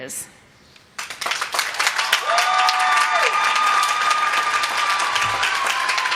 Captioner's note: applause